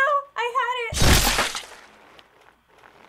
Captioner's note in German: Blut spritzt